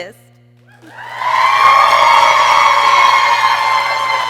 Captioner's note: people cheering